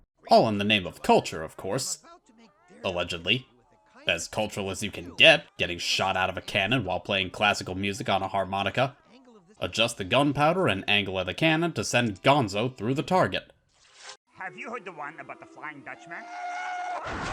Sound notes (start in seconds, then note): 16.1 audience booing